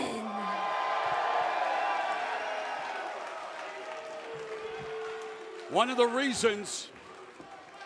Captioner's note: cheers and applause